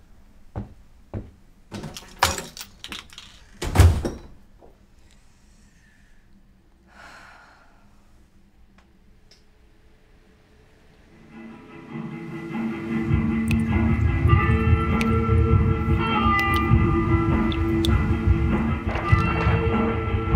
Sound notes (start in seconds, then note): 1.1 angry footsteps; 1.7 door opening; 1.9 door slamming; 6.9 sighing